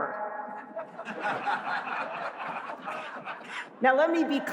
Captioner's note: laughter